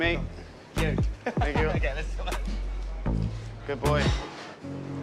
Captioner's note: laughs